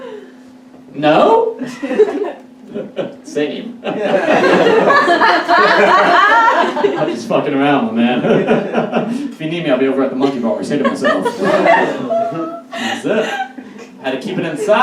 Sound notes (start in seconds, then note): 3.8 audience Laughs; 11.8 audience Laughs